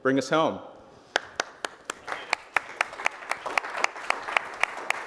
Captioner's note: applause